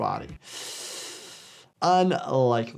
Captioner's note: hissing